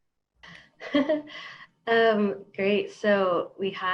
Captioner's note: laughs